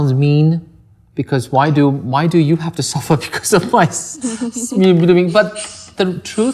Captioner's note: laughs